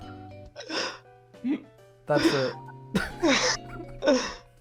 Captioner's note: panting laughter